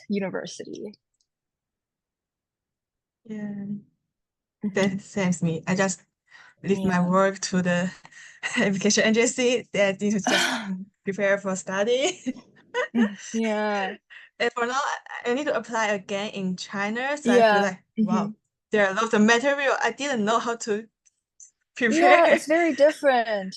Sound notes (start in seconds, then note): 12.8 laughs